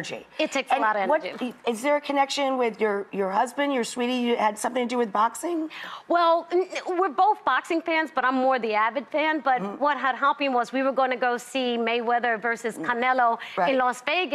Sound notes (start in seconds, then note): 6.0 stammers